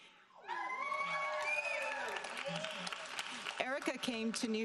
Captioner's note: audience cheering